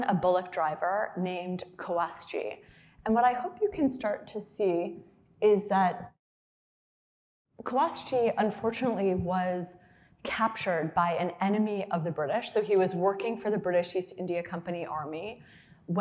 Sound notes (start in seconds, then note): none